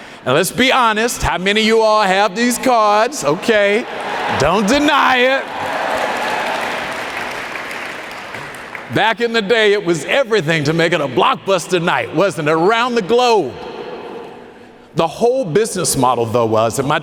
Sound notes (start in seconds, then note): 5.3 audience applauding